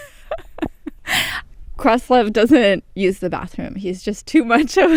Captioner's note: laughter